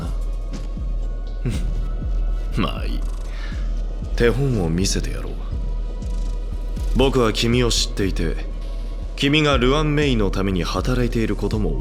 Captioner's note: sigh